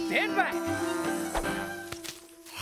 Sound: Benbo and Babbo buzz

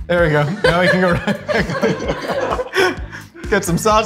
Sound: laughing

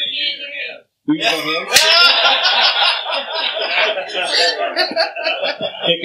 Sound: laughter

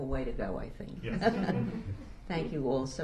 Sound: laughter

